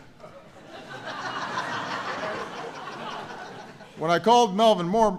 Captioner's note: laughter